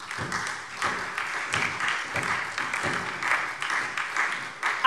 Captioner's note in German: Beifall SPD, Freie Demokraten und DIE LINKE